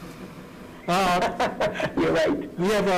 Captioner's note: laughing